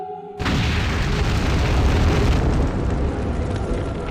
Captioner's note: explosion booming